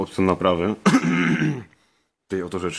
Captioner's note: smoker's cough